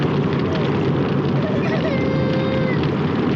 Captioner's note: crying